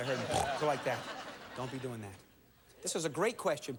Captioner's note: snort